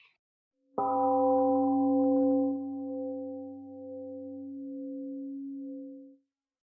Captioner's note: temple gong rings and fades